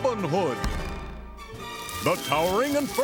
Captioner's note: metal reverberating